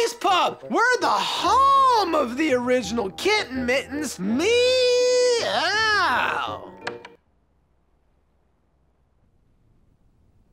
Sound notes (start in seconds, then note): 6.8 click